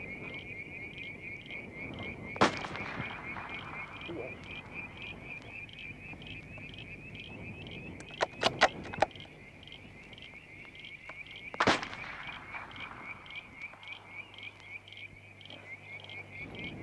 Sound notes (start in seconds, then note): 2.4 gun shot; 8.0 loading rifle; 11.6 gun shot